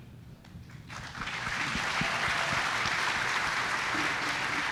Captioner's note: audience applauds